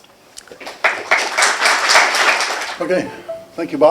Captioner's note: applause